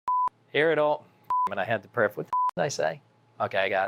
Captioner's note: beep; beep